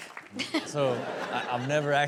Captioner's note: audience laughs